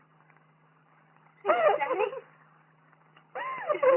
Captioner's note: sobbing